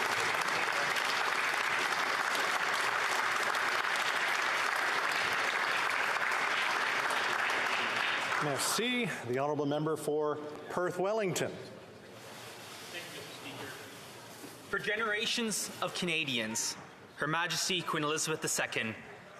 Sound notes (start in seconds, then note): 4.5 applause